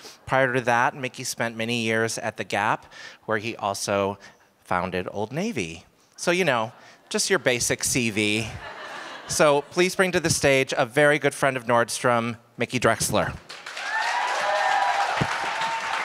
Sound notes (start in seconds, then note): 8.4 laughter; 13.4 applause